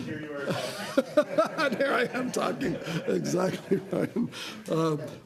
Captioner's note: laughter